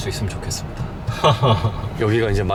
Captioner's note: chuckles